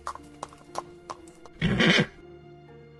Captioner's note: surprised snort